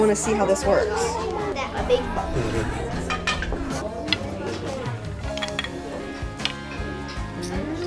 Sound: classroom noise

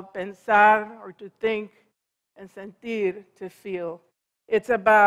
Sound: foreign language

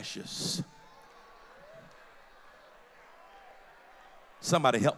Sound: loud crowd affirmation

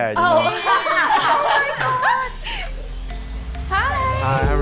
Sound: women laugh

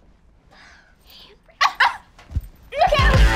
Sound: laughing

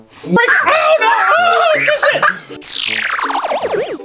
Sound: excited yelling

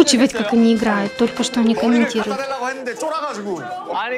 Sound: crying

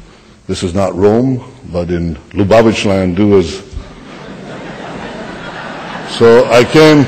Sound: laughter

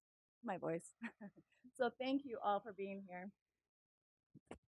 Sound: laugh

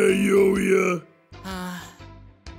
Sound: sigh

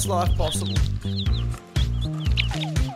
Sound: baby chickens singing

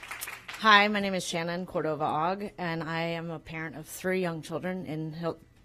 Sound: applause

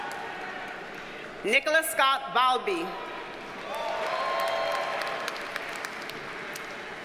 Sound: audience cheers and applauds

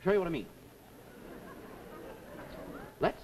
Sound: audience laughs

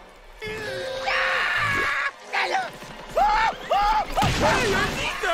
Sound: screaming

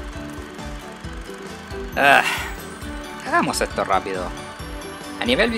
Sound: sigh

